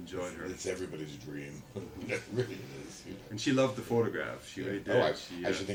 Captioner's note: laughter